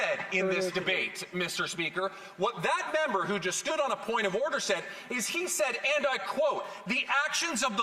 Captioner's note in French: voix de l'interprète